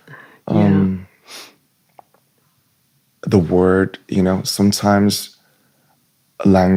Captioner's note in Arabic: شخير